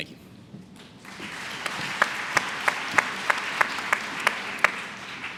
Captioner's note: applause